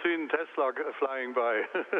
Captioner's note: laughter